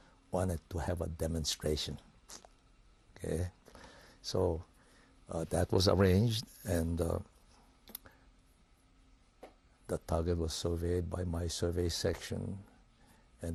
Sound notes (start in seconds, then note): 7.0 pauses for 3 seconds